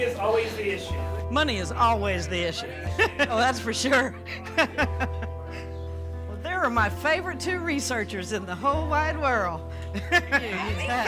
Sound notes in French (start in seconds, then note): 2.5 gloussements; 3.8 Rires